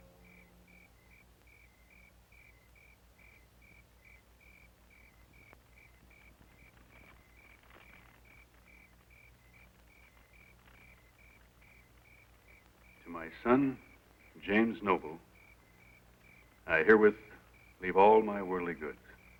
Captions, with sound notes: (crickets chirping) (fire crackling) - To my son, James Noble, I herewith leave all my worldly goods.